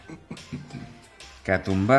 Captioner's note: clears his throat